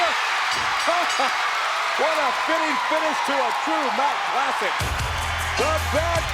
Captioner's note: laugh